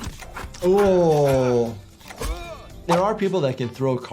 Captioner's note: Superman grunting